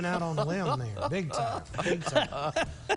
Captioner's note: laughing